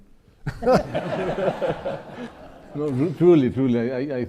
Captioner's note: audience laughing